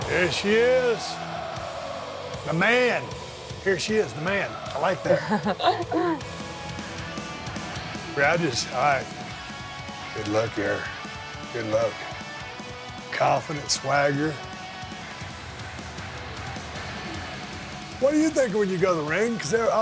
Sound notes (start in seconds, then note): 0.0 rock music; 4.9 Becky laughing; 7.2 rock music; 14.7 rock music